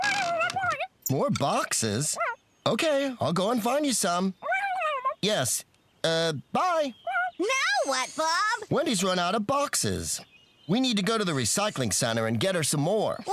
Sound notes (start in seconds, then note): 1.1 garbled Phone Voice